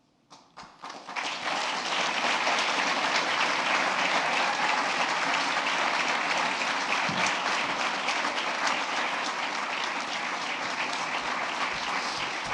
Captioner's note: applause